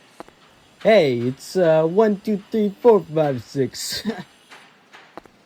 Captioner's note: laughs